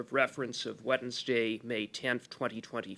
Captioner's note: speaking French